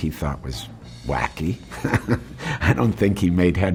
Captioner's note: laughs